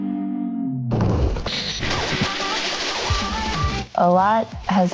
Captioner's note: upbeat instrumental music; static buzzing